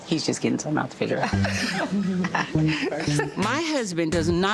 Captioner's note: group laughs